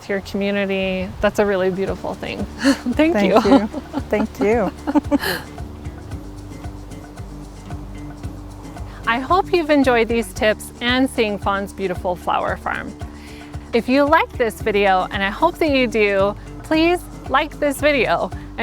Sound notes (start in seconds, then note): 2.5 laughs loudly; 5.9 upbeat music